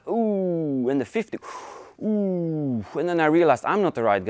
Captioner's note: gasps